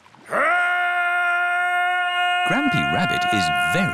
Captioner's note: shouting